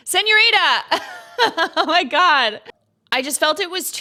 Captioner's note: laughs